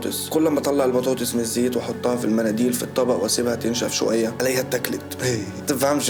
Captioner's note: laughing